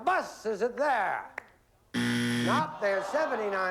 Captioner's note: buzzer